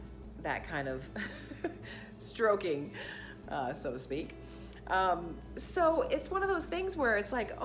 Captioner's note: giggles